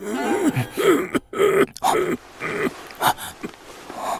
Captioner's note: coughing